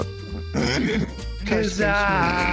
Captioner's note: clearing throat